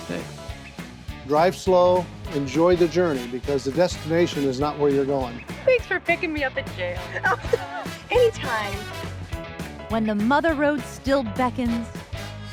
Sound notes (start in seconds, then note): 6.9 laughs